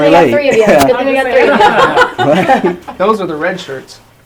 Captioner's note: laughing